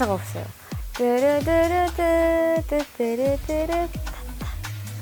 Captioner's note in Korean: ♬♪흥얼 흥얼♬